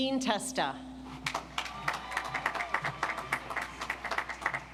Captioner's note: audience applauds